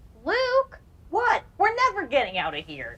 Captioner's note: voiceover